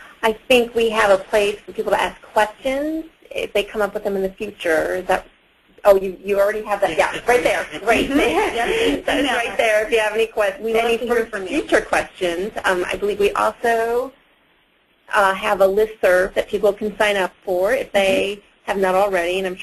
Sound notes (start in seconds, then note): 6.8 all laughing